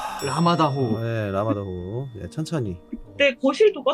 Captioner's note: breathing